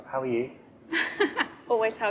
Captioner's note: chuckling